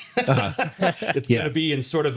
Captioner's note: both laughing